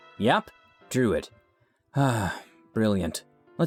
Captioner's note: sighing